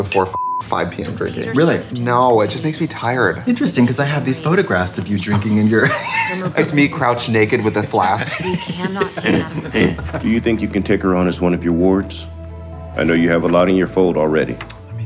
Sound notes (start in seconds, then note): 0.2 beep; 8.4 laughing; 10.3 male Voice